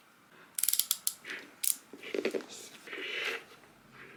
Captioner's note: craft knife clicks